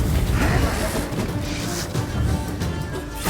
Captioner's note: wraith snarls